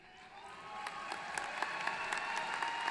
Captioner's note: applause